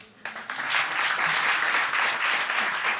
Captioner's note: audience clapping